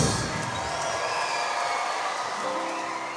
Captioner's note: cheering